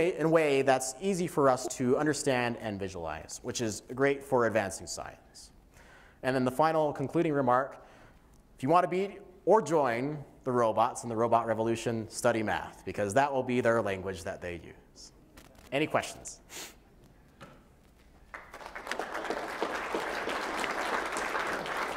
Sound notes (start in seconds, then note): 18.2 applause